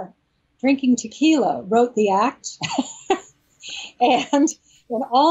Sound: laughs

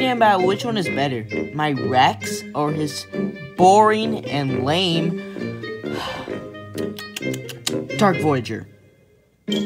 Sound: lips Smackering

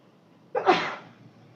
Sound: sneezing

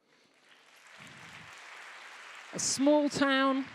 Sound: applause

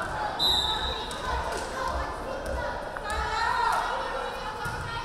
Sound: referee whistling

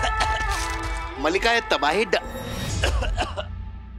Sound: coughing; coughing

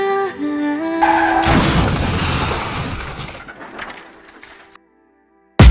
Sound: skids and crashes

